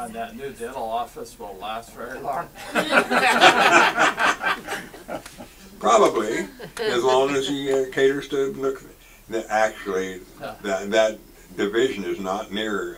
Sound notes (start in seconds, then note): 2.6 audience laughs